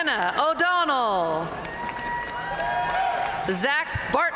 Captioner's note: audience cheering and applauding